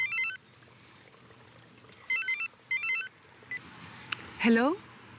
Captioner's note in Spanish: Suena celular